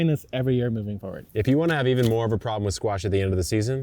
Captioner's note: packet thumping